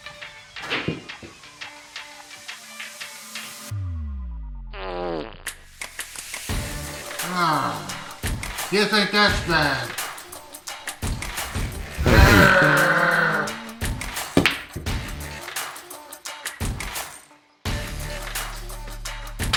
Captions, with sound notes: (Arizona farts) (Longbutt groans) You think that's bad? (Longbutt farts) (Longbutt growls) (pool balls clacking)